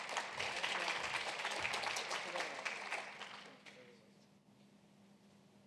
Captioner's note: applause